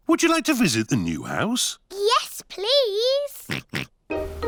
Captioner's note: oinks